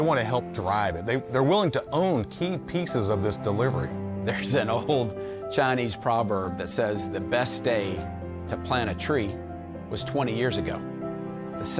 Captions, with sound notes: they want to help drive it. They’re willing to own key pieces of this delivery. - (laughing) There’s an old Chinese proverb that says the best day to plant a tree was 20 years ago.